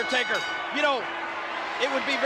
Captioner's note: bell rings